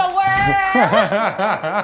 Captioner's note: laughs